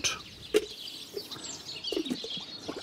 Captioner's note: birds chirping